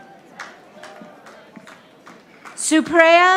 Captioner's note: audience applauding